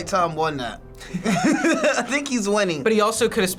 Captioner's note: both laugh